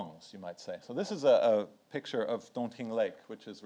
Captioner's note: speaks in foreign language